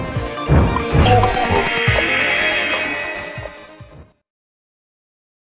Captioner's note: game audio